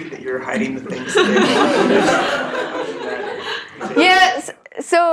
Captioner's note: laugh